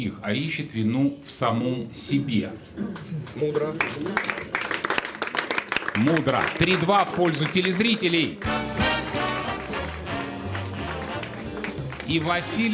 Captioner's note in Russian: аплодисменты